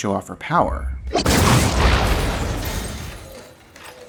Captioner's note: explosion